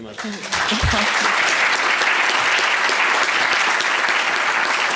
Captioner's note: applause